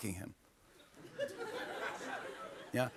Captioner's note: laughter